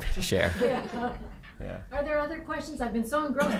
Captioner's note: everyone chuckling